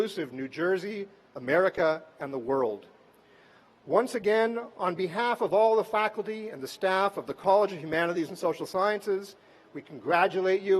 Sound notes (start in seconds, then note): none